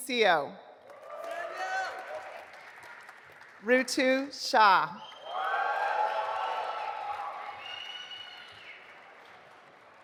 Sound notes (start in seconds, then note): 0.8 audience applauding; 5.0 audience applauding